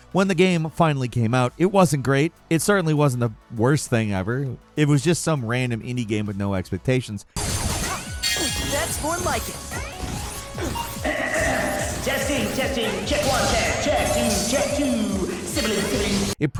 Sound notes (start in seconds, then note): 7.5 guns blasting; 11.0 clearing throat